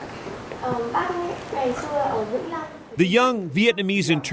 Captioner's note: translates in Vietnamese